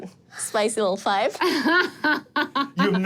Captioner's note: laughs